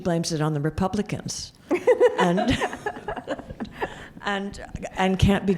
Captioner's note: laughs